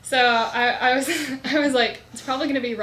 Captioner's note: laughs